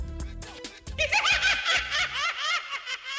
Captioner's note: laughing